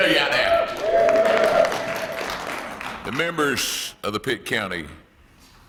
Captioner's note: applause